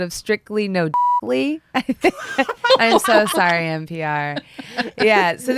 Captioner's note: laughter